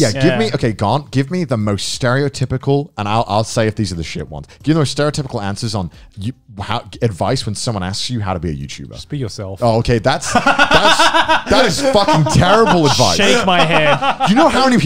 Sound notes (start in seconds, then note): 10.2 laughs